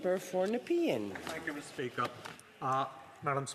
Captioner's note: speaking French